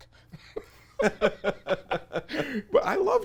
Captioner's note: both laugh